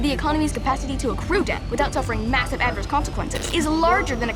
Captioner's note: voice becomes distorted